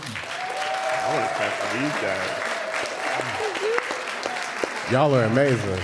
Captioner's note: applause and cheering